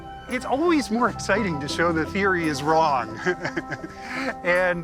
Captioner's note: laughs